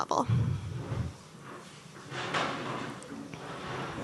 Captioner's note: chairs scuffling